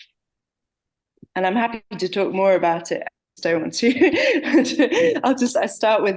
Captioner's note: laughing